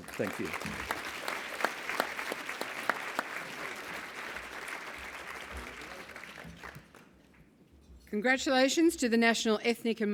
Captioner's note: applause